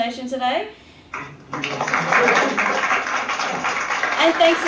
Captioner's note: applause off screen